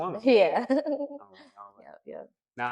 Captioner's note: laughter